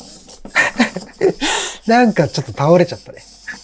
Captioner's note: laughs